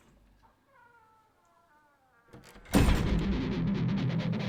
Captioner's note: door creaking and slamming; upbeat dramatic music